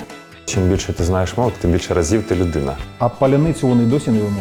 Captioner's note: Ukrainian